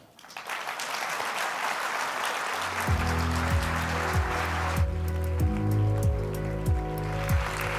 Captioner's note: applause